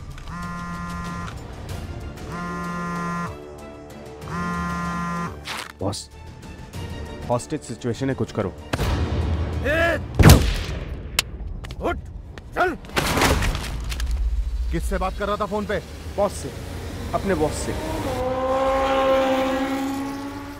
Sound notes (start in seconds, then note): 0.3 Phone vibrates; 10.1 Gun shot; 12.9 Pointing guns sound; 18.0 Bike revving